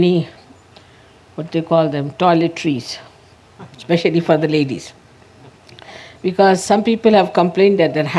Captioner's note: laughter